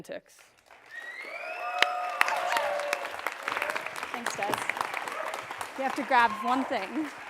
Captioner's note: cheers and applause